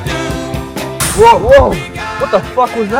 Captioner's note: tire deflating